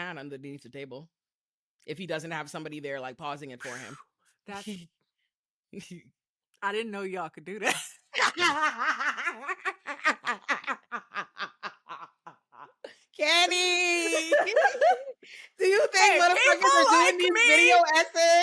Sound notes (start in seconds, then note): 10.8 laughing; 15.4 laughing